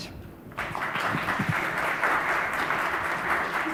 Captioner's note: audience applauds